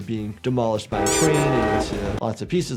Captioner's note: train horn